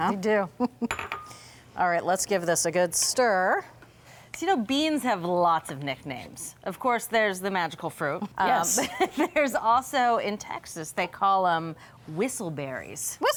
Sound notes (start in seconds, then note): 1.5 chuckles; 9.6 laughs